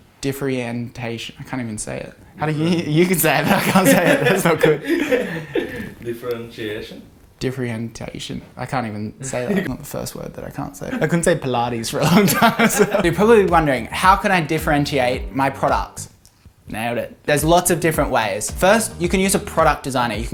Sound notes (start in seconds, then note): 5.4 laughs